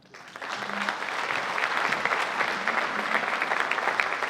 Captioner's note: audience applauding